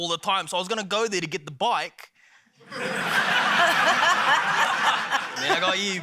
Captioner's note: laughter